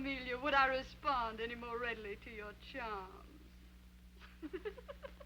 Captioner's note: laughing